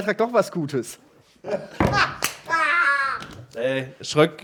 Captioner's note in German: lacht